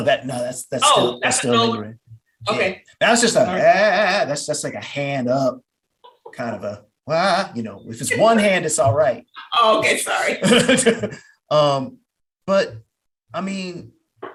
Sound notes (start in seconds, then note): 10.4 laughter